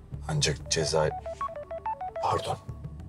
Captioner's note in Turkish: Telefon Çalıyor